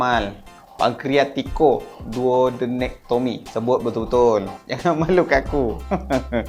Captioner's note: laughing